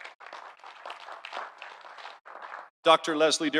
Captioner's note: audience applauding